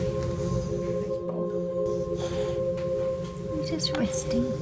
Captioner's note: loud breathing